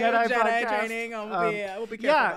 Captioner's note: giggling